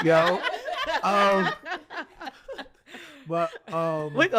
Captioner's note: hosts and guest laughing